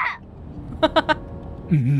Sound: chuckles

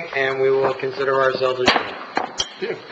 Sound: gavel bangs

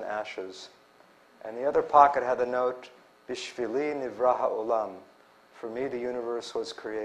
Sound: non-english

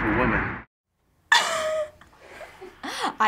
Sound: laughs abruptly

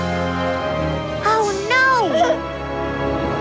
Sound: baby laughing

